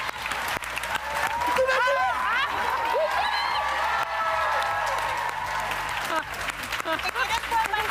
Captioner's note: cheers and applause